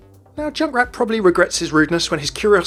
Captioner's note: voiceover